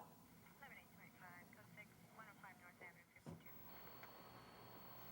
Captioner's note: police radio commotion